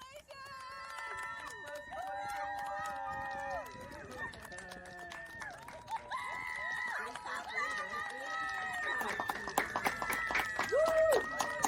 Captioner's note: clapping and cheering